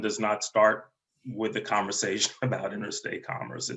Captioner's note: laughs